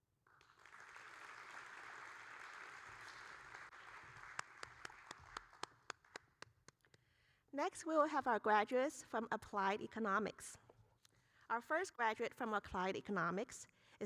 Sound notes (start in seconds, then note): 0.3 audience applauding; 4.5 applauding